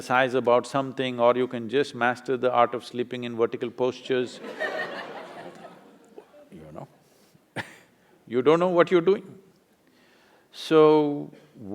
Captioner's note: laughter; laughs